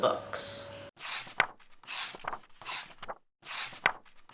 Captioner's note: pages turning